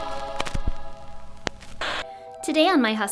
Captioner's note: static